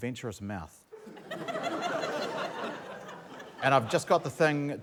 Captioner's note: laughter